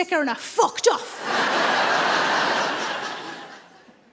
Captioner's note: audience laughs